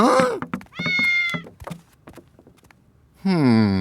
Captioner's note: meowing